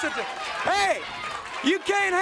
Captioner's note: crowd cheering